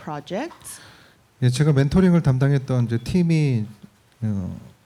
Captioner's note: speaking korean